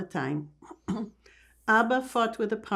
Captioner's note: clears throat